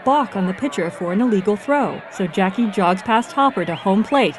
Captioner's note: cheering and whistling